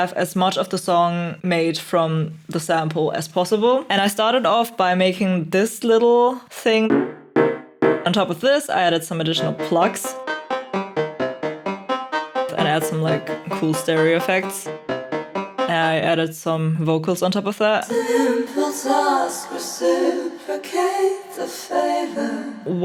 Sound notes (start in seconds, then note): 6.9 bouncy, metallic pwong; 10.1 climbing and descending pwongs